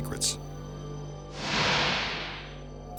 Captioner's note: light beam swishing